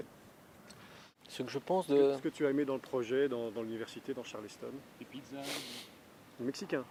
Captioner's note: foreign dialouge